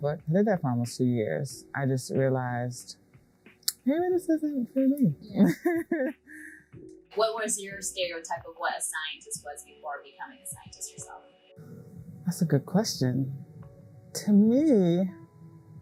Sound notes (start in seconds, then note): 4.7 laughs